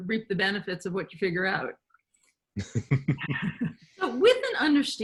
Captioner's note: laughing